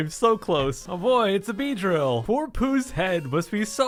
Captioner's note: sarcastic happiness